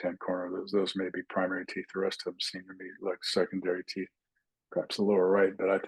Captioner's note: indistinct chatting